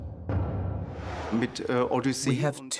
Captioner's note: speaking German